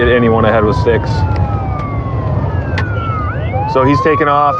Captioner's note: sirens wairens wailili